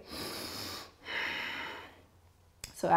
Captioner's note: deep breathing